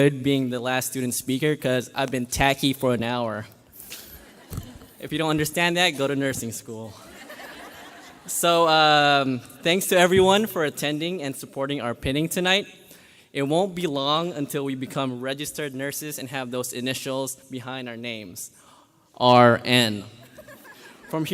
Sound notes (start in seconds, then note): 3.8 graduates laugh; 6.9 graduates laugh